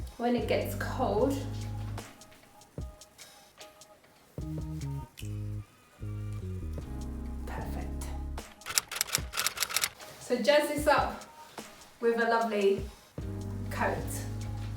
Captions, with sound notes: when it gets cold, perfect. (keyboard typing) So jazz this up with a lovely coat.